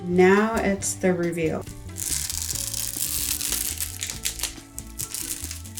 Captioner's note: material crinkling